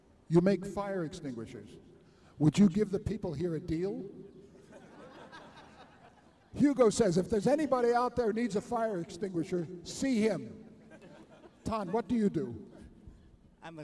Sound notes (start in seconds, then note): 4.5 laughter